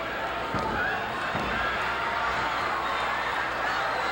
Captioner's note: hand tapping